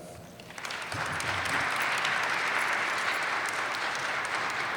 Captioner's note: audience applauding